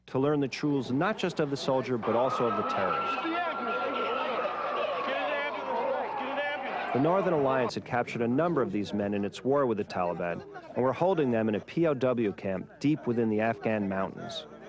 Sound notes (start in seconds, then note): 3.2 emergency siren whaling